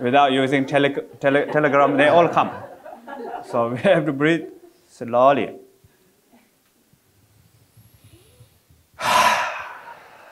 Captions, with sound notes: And without using telegram, they all come. So we have to breathe slowly. (breathes)